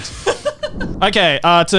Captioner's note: laughs